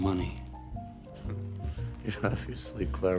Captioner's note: chuckles sarcastically